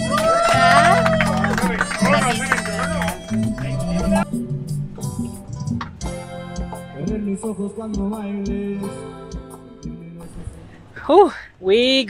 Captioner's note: applause